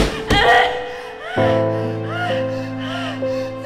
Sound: pants

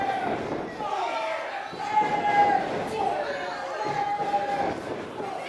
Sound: wrestlers shouting

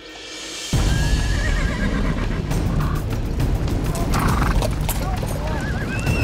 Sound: suspenseful music; horses whinnying

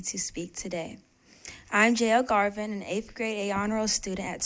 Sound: speaking spanish

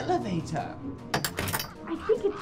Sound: door locks

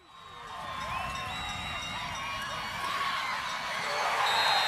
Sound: crowd cheers

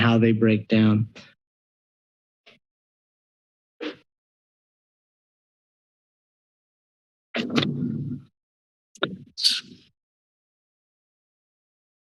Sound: silence

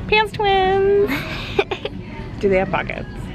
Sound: laughing

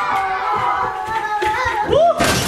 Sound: footsteps thumping

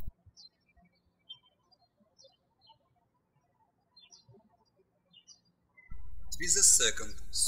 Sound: birds chirping

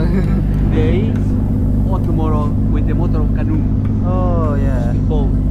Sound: men's chatter

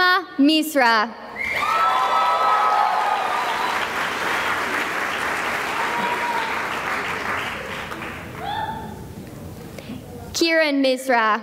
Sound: cheering and applause

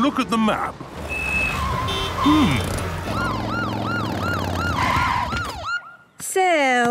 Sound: honking, sirens

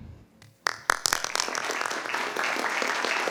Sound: applause

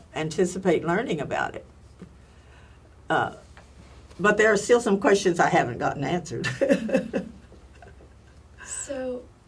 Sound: laugh

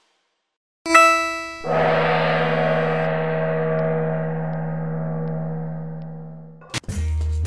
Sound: gong

